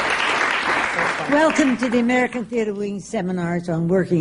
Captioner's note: applause